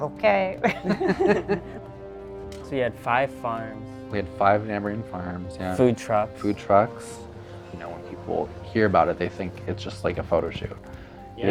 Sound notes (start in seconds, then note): 0.6 laugh